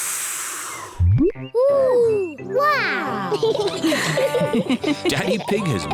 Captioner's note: all laugh